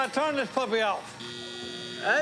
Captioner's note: buzzing